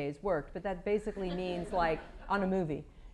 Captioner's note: laughter